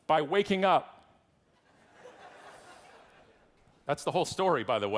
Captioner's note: audience laughing